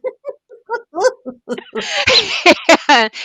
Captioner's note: laughing